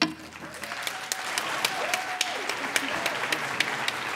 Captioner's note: applause